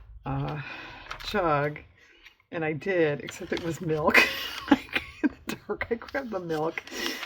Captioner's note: laughs